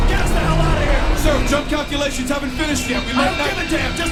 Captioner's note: voiceover